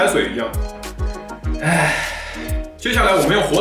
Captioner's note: gasp